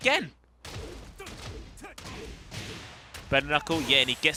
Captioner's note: game sounds